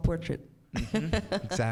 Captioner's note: laughs